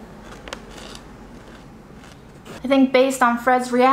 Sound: food crunching

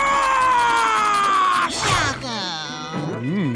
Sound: roaring; grunting, groaning

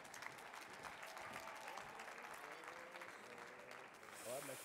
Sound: audience clapping

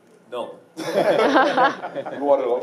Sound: laughing

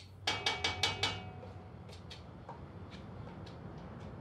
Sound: ladle taps

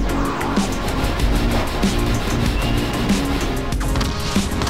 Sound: shotgun blasts

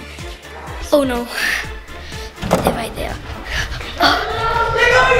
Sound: breathing heavily; pants

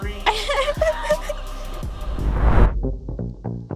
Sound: laughing; upbeat music

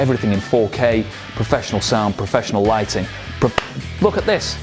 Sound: claps

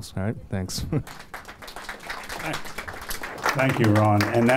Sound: applause

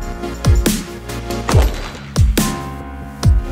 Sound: gunshot

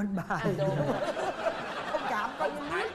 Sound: laughing

